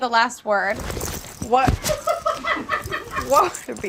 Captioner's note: audience laughs